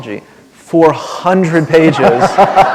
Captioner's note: laughter